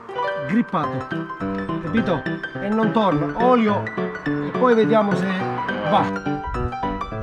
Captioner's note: uplifting music playing; speaking Italian